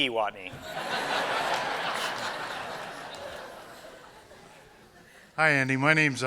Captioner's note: laughter